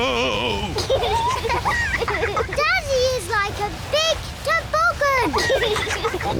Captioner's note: both giggle